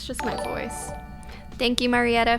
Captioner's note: notification tingling